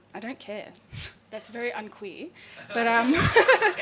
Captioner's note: laughing